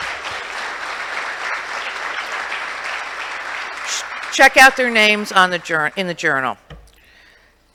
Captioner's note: applause